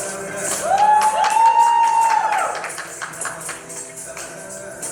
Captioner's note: applause